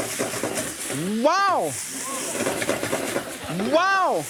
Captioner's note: audience laughing